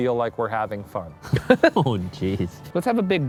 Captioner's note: laughs